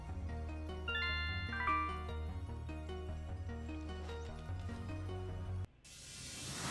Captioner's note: notification sound